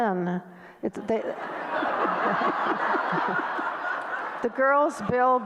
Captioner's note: audience laughter